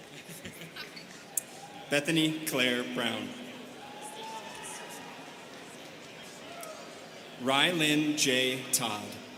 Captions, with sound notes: Bethany Claire Brown. (students chattering) Rylyn J. Todd.